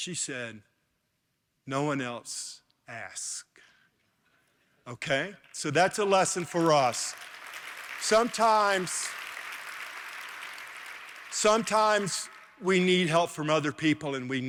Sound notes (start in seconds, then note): 7.4 applause